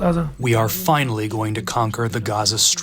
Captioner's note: through translator